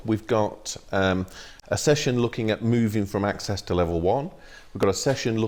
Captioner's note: none